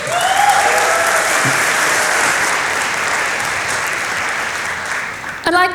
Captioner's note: applause